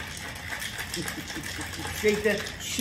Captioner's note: laughs